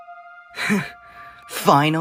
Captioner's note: BELPHEGOR scoffs